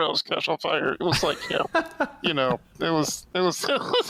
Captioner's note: laughter